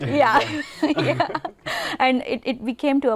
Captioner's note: laughter